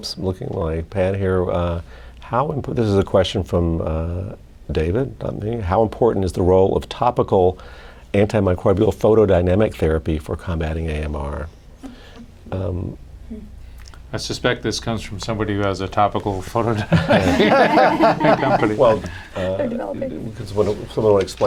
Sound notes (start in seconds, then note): 16.7 laughter